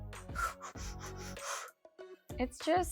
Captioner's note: breathing heavily